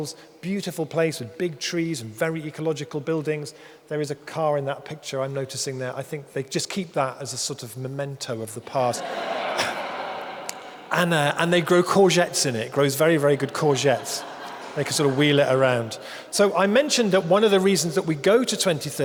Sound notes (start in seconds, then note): 8.8 audience laughing